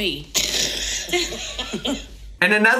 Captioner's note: Tammy and Misty laughing